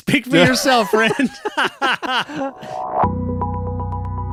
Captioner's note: laughing